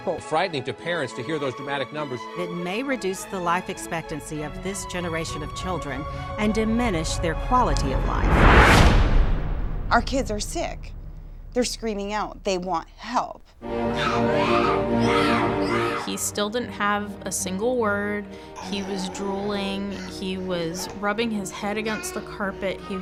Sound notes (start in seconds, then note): 7.2 dramatic swoosh; 13.8 child screaming